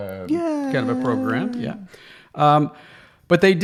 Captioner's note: clapping